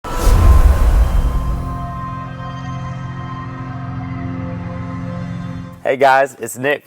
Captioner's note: sound effect